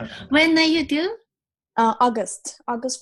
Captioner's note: laughs